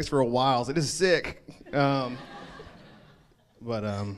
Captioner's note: crowd laughs